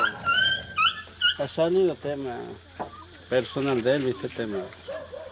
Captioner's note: speaking Spanish